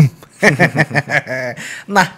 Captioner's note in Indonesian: ketawa renyah